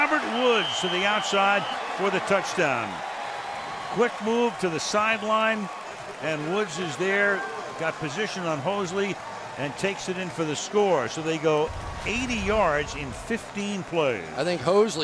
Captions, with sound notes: And it's Robert Woods to the outside for the touchdown. [cheering] Quick move to the sideline. And Woods is there, got position on Hosley, and takes it in for the score. So they go 80 yards in 15 plays.